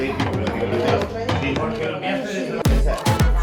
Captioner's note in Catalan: castellà